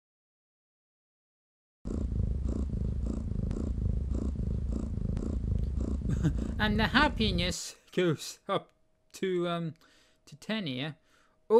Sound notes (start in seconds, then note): 1.8 jess snoring sound